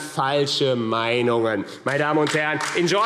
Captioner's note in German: Beifall